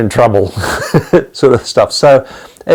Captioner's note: laughing